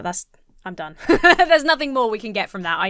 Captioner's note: laughs